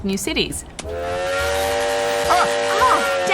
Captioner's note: train whistle